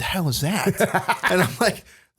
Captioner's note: laughter